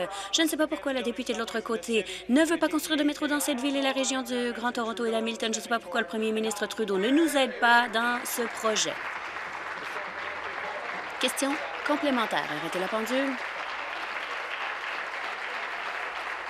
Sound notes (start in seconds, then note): 12.1 applause